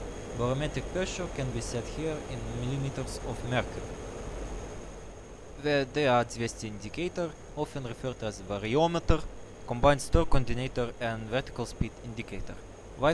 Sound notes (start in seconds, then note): 5.3 russian accent